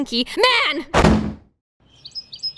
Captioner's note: doorslam